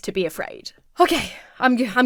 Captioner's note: exhales sharply